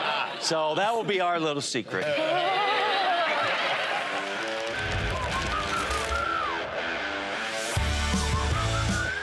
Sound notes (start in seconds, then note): 2.4 cheers, applause; 4.0 rock music playing